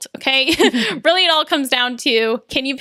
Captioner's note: laughs